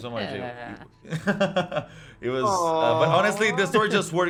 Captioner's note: laughing